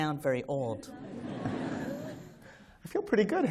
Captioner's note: laughter